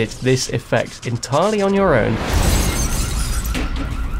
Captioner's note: sky crackles; alarm buzzes